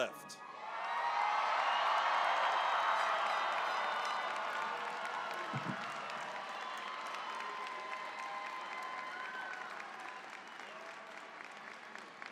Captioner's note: cheering, applause